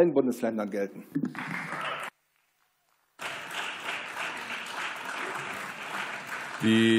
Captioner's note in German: Beifall